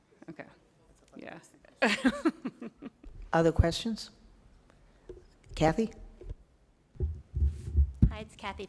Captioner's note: laughter